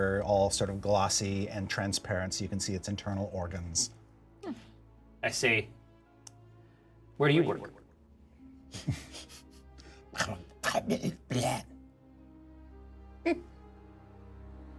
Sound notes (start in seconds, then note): 9.8 garbled alien speak